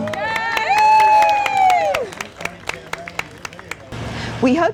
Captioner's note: spectators cheer and applaud